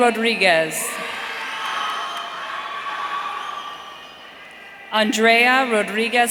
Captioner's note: audience cheering